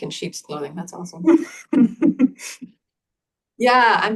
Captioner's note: laughs